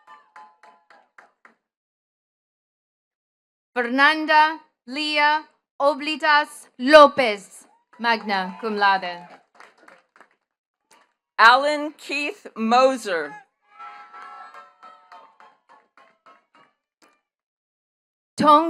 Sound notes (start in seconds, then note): 0.0 attendees clapping; 9.2 attendees cheering and clapping; 13.2 attendees cheering and clapping